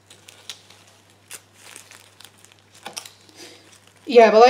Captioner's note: slicing and rustling